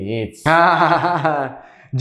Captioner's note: laughs